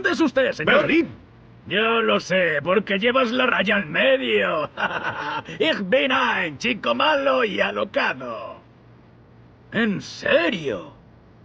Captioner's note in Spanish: risas